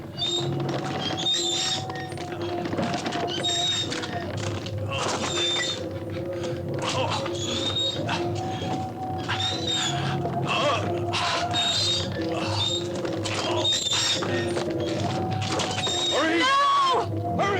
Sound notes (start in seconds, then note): 0.2 cart wheels creaking; 10.5 Albert grunting